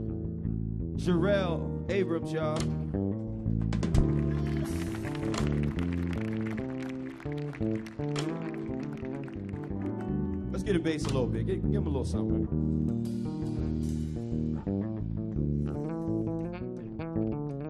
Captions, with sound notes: Jorelle Abrams, y'all. (audience applauding) Let's give 'em bass a little bit, give 'em a little something. (slow relaxing music)